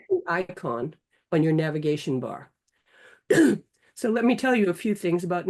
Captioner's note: coughing